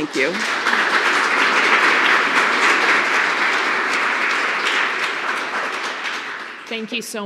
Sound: applause

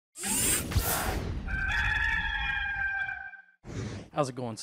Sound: mechanical sounds and rooster call

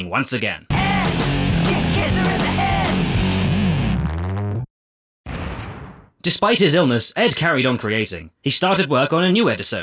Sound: explosion

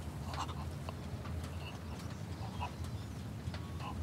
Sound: man gasping

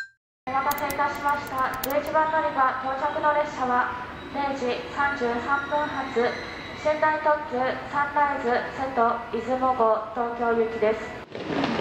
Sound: annoucements in Japanese

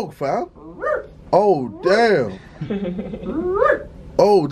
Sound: imitates barking

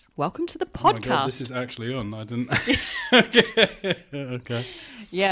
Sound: laughs

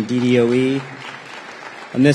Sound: applause

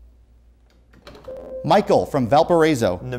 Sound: beeping

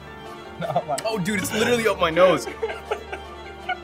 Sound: laughing

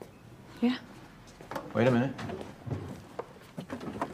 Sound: none

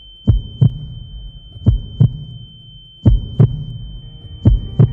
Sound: heartbeats

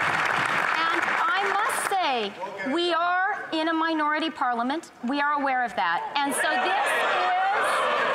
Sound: some Applause

